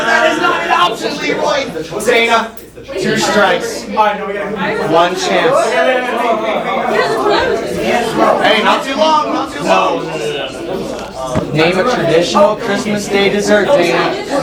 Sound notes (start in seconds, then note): 3.8 talking; 10.2 talking